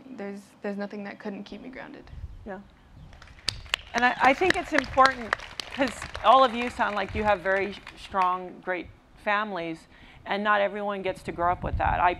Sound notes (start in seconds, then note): 3.1 applause